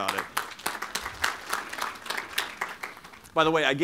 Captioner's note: applause